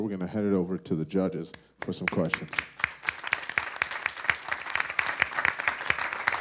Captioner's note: audience applause